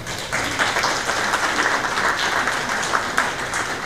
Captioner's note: applause